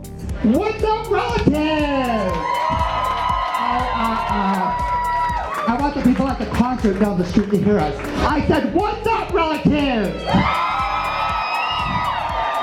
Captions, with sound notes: What's up relatives! [cheering] I want the people at the concert down the street to hear us. I said, 'Whats up relatives!' [cheering, louder]